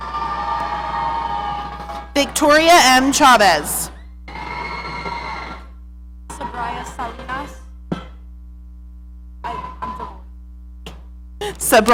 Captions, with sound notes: (audience cheering) Victoria M Chavez. Sabrina Salinas.